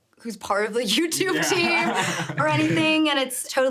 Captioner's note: laughs